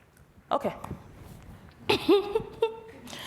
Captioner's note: laughs